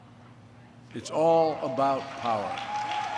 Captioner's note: applause